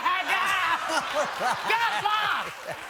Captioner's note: laughs